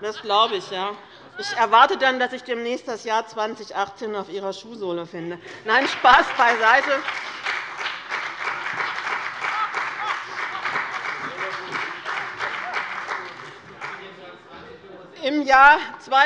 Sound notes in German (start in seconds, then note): 5.7 Heiterkeit und Beifall bei dem BÜNDNIS 90/DIE GRÜNEN